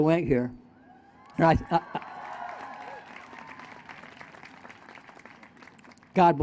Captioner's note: applause